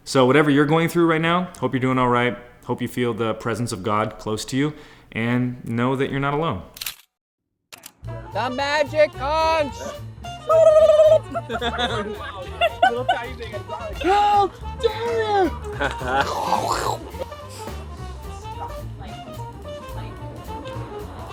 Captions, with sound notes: So whatever you're going through now, hope you're doing all right, hope you feel the presence of God close to you, and know that you're not alone. (camera clicking) - The magic hunch! (hollers) (all laugh) (speaking in gibberish) (jazz music)